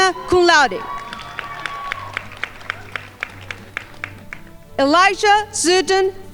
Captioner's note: crowd applauding